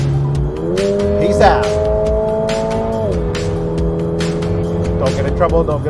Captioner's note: car engine roaring